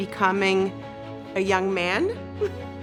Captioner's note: chuckles